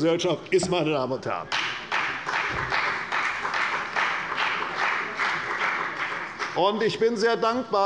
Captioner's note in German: Beifall bei der CDU